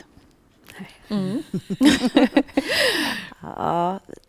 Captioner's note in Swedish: skratt